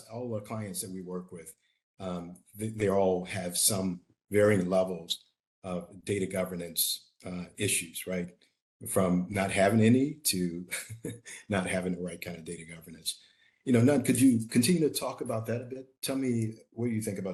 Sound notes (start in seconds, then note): 10.6 chuckling